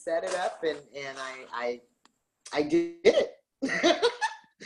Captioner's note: laughs